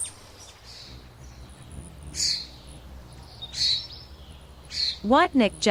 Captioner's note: birds chirping; bird's wing flapping